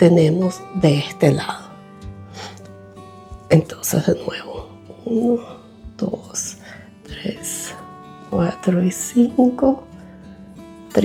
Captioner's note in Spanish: resoplido